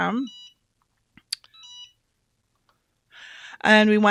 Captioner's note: machine beeping